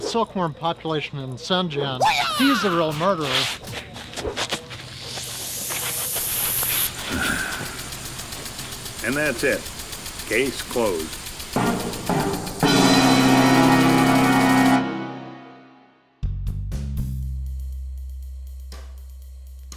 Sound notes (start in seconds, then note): 7.0 sigh